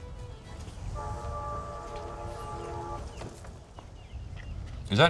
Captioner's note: train whistle